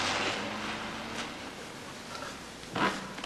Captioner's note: car starts; car pulls away